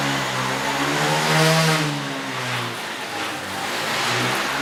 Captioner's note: engines revving